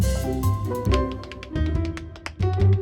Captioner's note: tapping